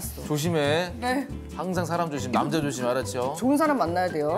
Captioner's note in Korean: 서라운드로 들리는 잔소리